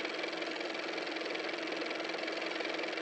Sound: car motor

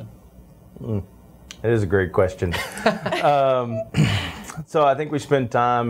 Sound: laughs

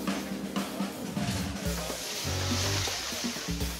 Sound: sizzling

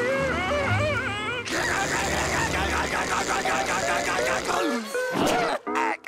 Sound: screaming; chuckling

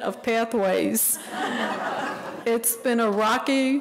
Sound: audience laughing

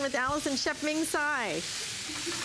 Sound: laughter

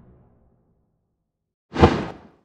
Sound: swoosh

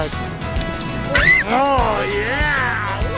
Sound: screams

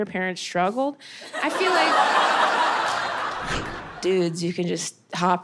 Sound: audience laughing

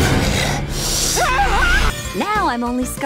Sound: screaming

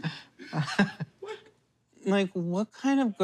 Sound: laughing

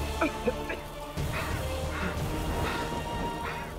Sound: panting

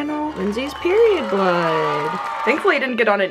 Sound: crowd cheers

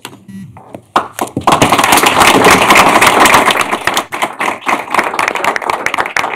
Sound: applause

